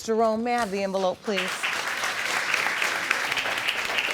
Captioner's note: audience clapping